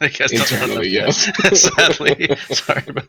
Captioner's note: laughs